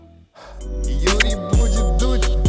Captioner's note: ending theme; exhales, blows a kiss